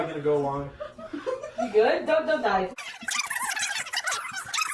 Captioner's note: muffled laughter; sped up laughing sounds